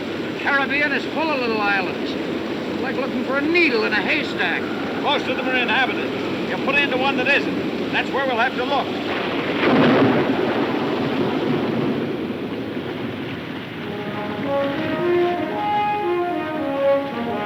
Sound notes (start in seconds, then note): 9.0 thunder cracking; 13.8 somber orchestral music